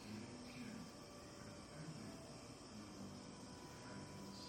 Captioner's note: TV continues faintly